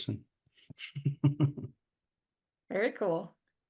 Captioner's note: chuckles